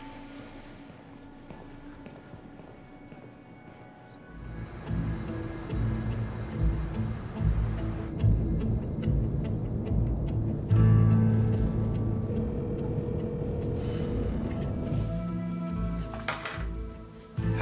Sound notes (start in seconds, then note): 4.3 dramatic orchestra music; 12.5 phone rings